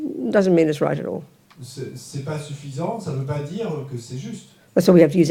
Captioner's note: French